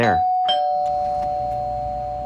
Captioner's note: doorbell rings